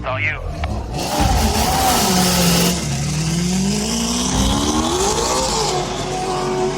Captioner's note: engine revving